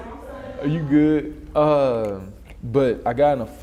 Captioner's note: laughs